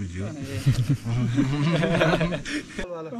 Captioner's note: laughter